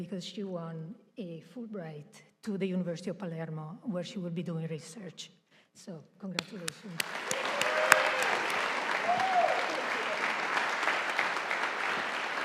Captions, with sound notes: because she won a Fulbright to the University of Palermo where she will be doing research. So, congratulations. (audience applauding)